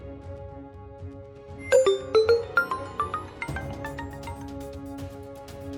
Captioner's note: cell-phone ringing